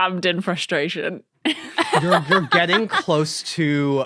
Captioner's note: laughs heartily